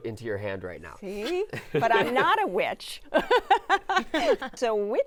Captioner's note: laughs